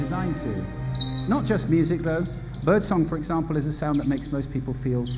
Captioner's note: birds chirping